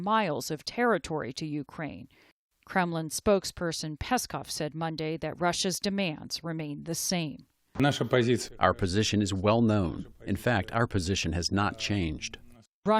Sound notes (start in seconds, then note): 9.1 through translator